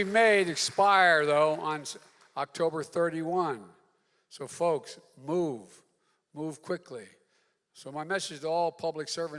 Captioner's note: applause